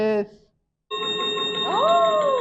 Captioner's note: chiming sound effect